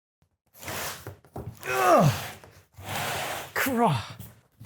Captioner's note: dragging noises, strained grunting